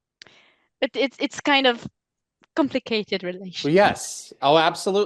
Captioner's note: translating from French